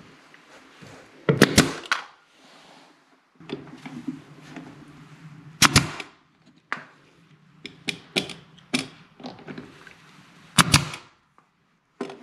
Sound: nailing sounds

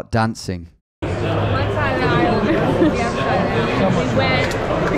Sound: fans chatter indistinctly

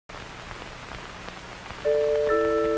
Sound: audio speaker static; logo bells chime

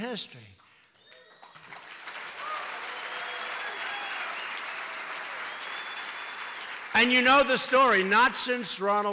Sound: applause

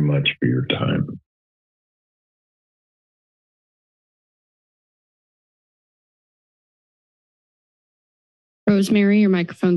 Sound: silence

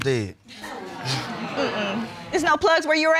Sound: audience exclaims

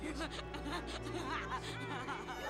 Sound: laughing maniacally

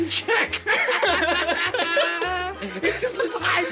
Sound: laughter

